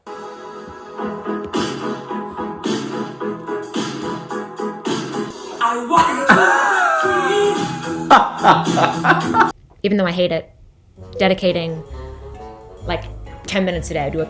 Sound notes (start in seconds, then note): 0.2 upbeat music; 5.9 laughs